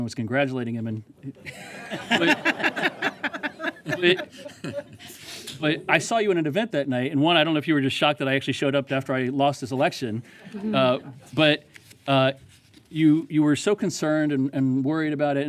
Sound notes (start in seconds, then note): 6.0 laughter